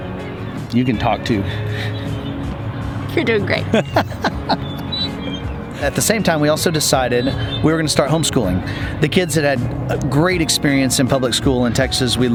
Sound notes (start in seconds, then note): 3.6 laughs